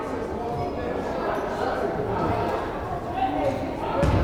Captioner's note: crowd chattering